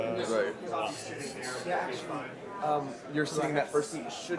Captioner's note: chattering